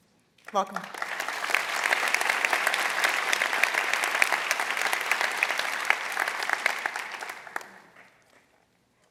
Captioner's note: applause